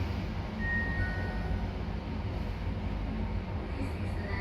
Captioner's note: faint downward chime